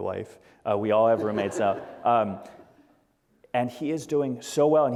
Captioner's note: audience laughter